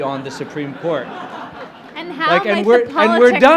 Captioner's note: laughter